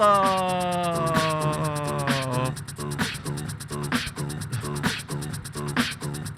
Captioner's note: beatboxer performs